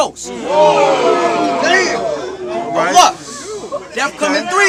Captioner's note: crowd Reaction